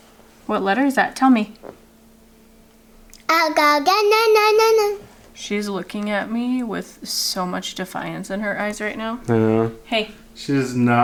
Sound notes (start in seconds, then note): 3.3 babbles